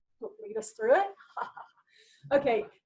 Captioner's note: laughs